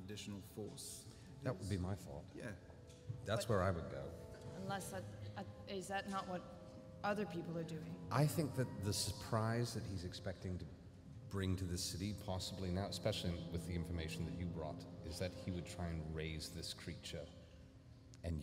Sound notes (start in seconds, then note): none